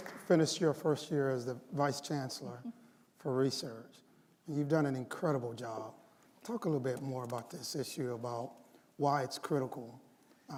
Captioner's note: applause